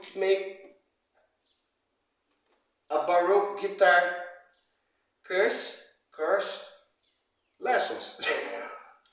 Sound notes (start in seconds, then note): 4.9 bad pronounce